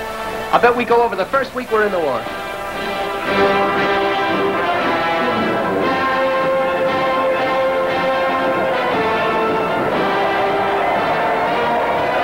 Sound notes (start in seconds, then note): 3.0 bright rousing music; 8.7 crowd cheering